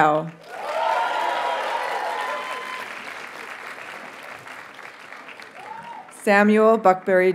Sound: audience cheers and applauds

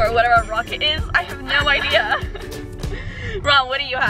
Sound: laughs

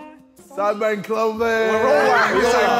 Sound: Sidemen chattering

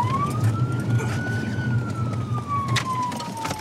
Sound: sirens

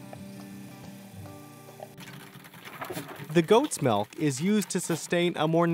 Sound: voiceover

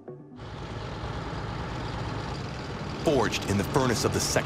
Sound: tank engine roaring

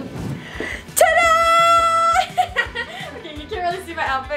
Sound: laughs

